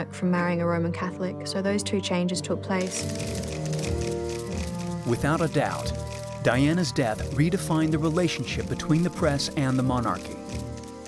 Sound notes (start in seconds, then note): 2.8 clicking; 3.2 dramatic music